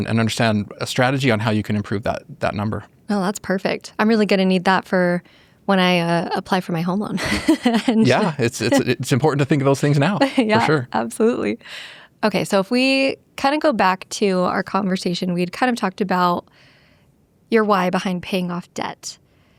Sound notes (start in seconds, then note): 7.2 laughs